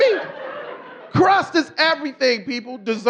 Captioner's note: audience laughing